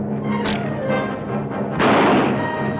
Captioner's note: bow twangs; gun fires